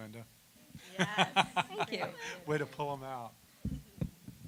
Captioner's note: laughter